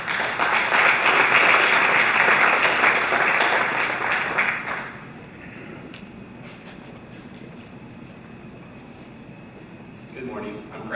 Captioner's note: applause